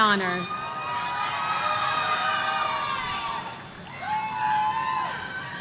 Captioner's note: audience cheering